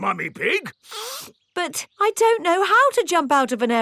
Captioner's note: sniffs